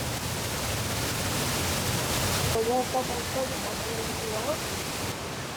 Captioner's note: water splashing